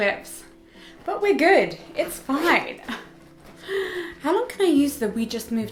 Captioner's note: chuckles